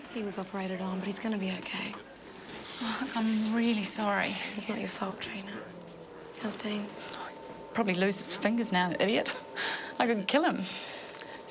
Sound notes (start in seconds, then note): 9.4 laughs